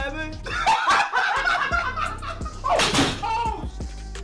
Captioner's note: laughing